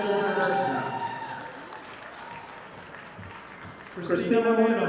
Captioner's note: audience applauding